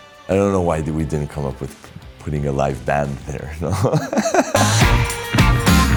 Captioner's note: laughs